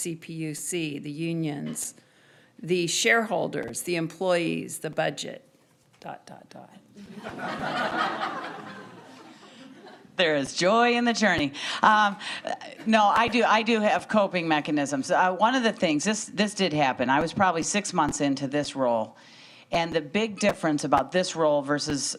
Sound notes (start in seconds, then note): 7.0 audience laughing